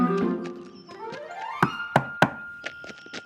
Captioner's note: knocking